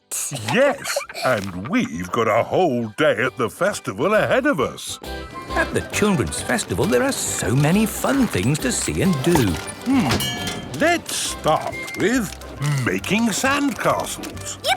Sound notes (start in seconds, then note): 5.0 festival buzz and music